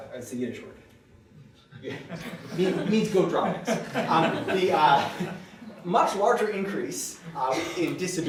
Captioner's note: laughter